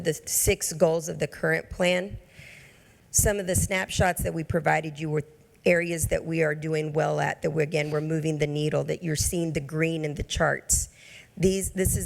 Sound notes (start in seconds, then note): none